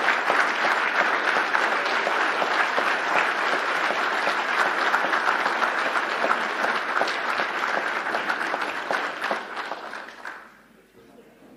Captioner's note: cheers and applause